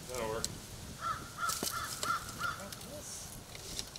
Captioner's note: bird chirping